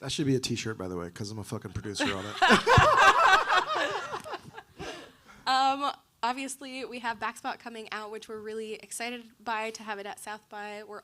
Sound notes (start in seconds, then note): 2.0 panelist laughing